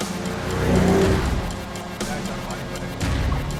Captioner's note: upbeat music; car engine revving